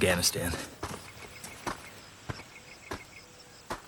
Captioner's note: boots crunching